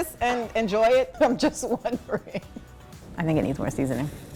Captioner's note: chuckles